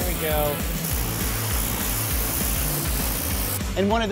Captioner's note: buzzing